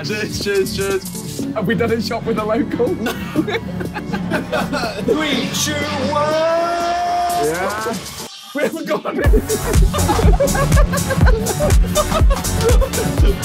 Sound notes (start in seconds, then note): 2.8 Sidemen laughing; 10.4 Sidemen laughing